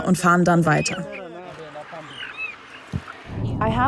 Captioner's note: cheeping sounds